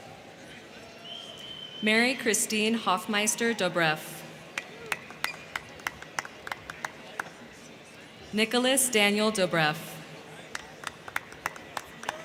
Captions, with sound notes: Mary Christine Hoffmeister-Dobrff. (crowd clapping) Nicholas Daniel Dobreff. - Congratulations.